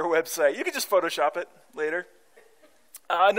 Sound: chuckling

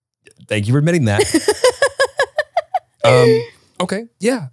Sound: laughing

